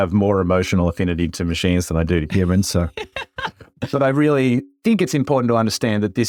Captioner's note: laugh